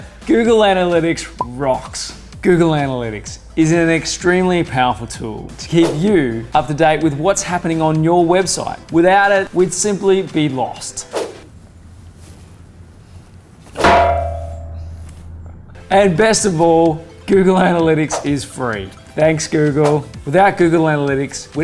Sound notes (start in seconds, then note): 13.7 clang